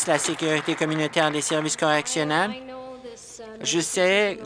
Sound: applause

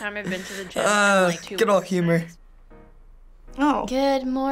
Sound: laughs

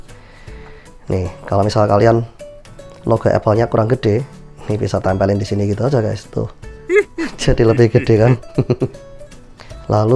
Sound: chuckles

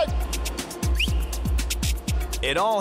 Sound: whistles sharpy

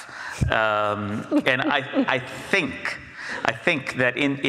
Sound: Jennifer laughs

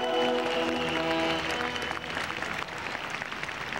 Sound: audience applause

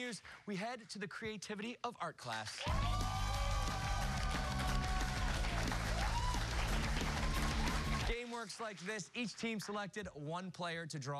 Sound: cheers and applause

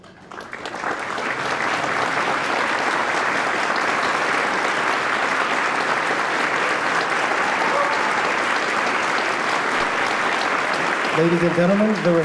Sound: applause

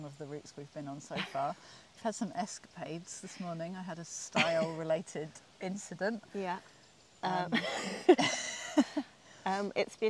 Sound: giggles

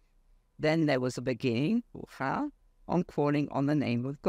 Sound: speaks foreign language

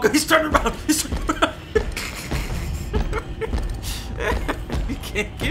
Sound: laughing

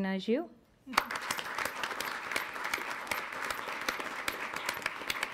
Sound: audience applauds

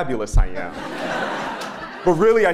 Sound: laugh

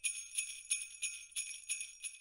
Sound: bells jingle

